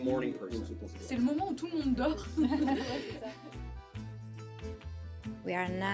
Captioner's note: speaking in foreign language